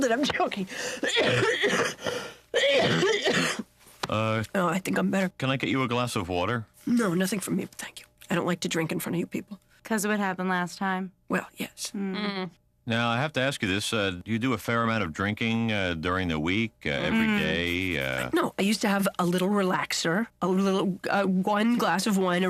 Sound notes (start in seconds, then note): 0.8 coughing loudly